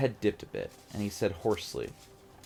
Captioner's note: none